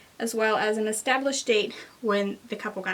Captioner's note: none